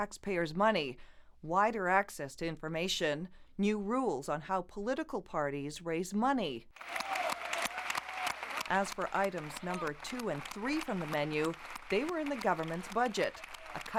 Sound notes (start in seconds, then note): 6.7 cheering and applause